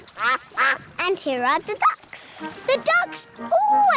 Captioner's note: quacking